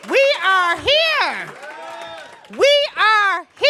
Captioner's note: cheers